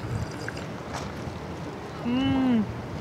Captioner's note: sips tea